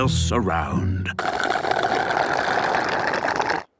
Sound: slurping

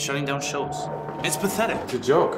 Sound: crowd cheering

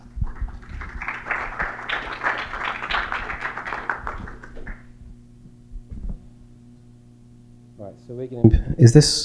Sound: applause

